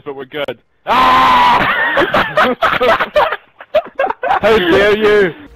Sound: laughing

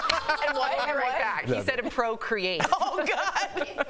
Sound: laughter

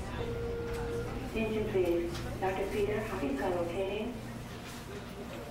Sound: hospital announcer muffled

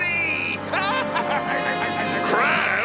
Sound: laughing

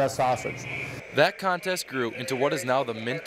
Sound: voiceover

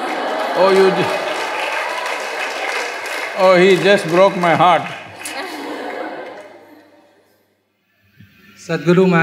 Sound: laughter/Applause; laughter

